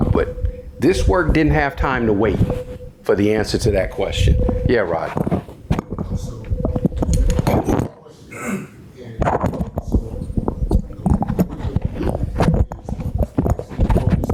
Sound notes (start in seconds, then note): 6.7 mic feedback thumping